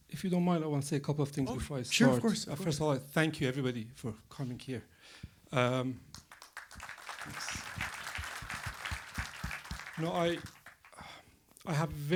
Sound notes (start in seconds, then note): 8.8 applause